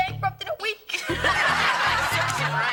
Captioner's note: audience laughing; students laugh